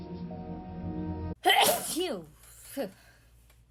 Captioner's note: sneeze